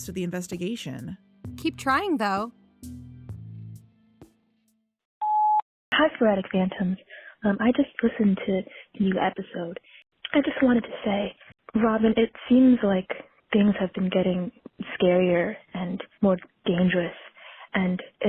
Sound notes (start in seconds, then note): 2.5 beep!; 2.8 music fades out